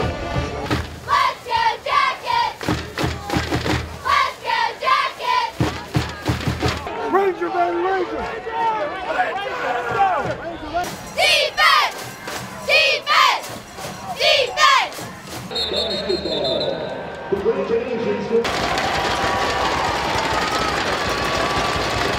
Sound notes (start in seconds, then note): 6.8 shouting; 15.4 whistle blowing; 18.5 sticks clapping